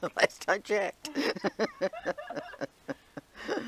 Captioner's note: laughing; interviewer 1 laughing